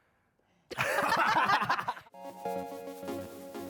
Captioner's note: all laughing; light upbeat music